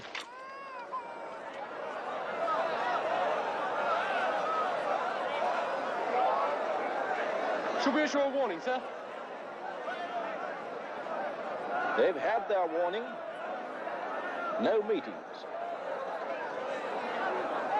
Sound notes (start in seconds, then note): 0.2 baby crying; 1.2 crowd panicking